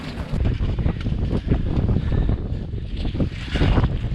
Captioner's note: wind blowing